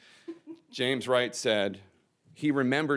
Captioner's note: woman laughs